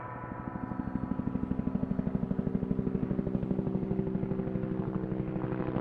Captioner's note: gong sounds; helicopter whirring